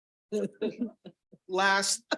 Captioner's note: attendees chuckle